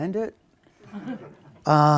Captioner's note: laughs